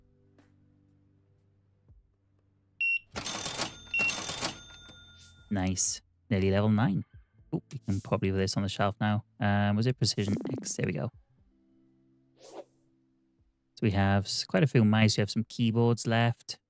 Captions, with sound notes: (beeping) Nice, nearly level nine. Oop, we can probably do this on the shelf now. Was it precision mix? There we go. We have quite a few mice. We have some keyboards left.